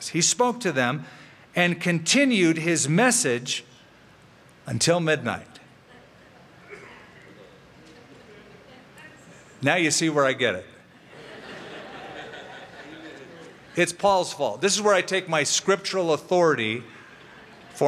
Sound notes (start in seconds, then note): 11.0 laughter